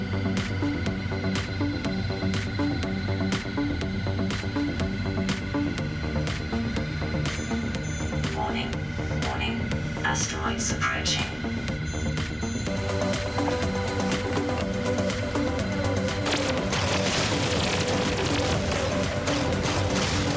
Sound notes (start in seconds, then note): 12.1 VR goggles bleep softly; 16.2 vehicle weapons zapping; 16.2 asteroids banging